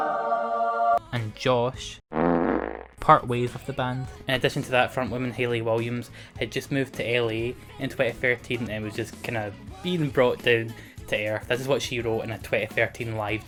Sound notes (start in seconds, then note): 2.1 fart